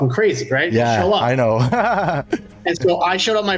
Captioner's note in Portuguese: risadas